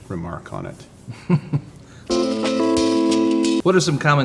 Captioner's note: laughs